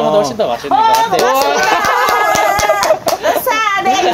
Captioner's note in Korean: 환호